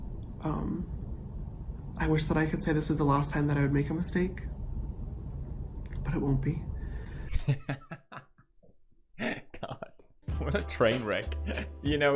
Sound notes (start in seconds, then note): 9.2 laughing